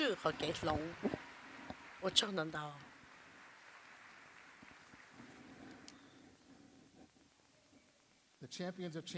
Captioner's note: applause